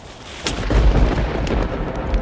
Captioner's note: thunder cracking; mysterious music